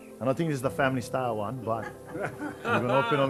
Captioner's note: laughter